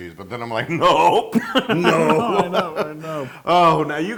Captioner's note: laugh